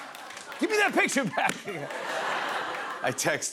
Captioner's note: laughter